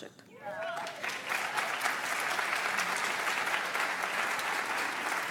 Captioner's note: audience applauds